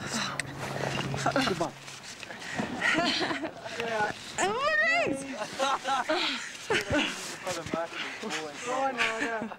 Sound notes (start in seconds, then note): 2.7 laughs